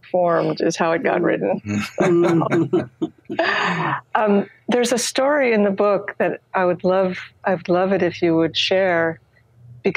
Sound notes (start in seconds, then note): 1.7 everyone laughs